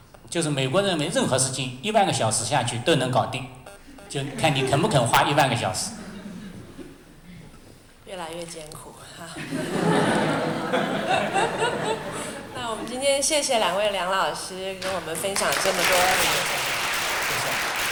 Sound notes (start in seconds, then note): 5.8 laughter; 8.1 Mandarin; 9.3 laughter; 14.8 audience clapping